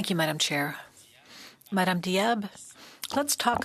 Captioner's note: speaking French